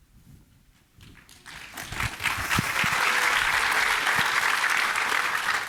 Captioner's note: applause